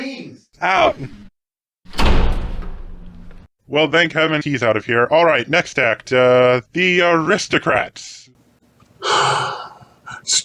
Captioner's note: door slams